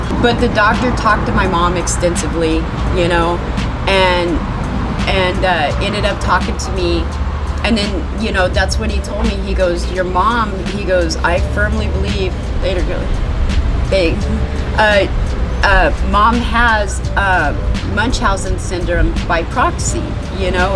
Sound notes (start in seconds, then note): 12.9 murmuring